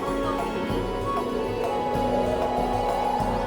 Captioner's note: wind howling